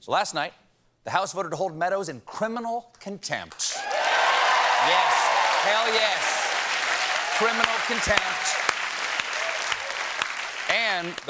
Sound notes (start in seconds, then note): 5.9 cheers and applause